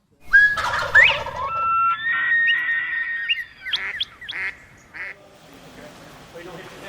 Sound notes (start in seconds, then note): 0.2 bird calls